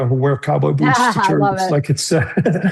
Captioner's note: laughs